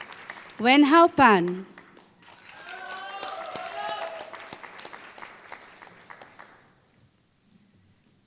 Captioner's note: applause